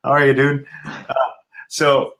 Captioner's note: laughing